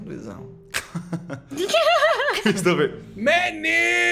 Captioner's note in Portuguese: Risos